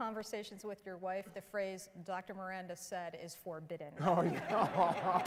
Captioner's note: applause